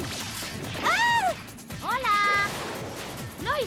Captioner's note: scream